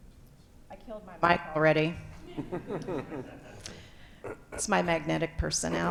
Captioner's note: audience laughing